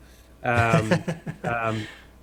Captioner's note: laughing